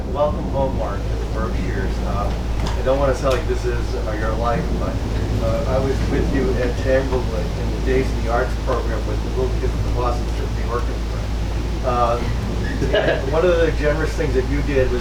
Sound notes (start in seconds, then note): 11.0 speaking faintly; 11.8 laughs